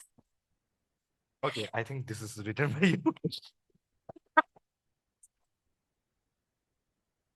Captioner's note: laughters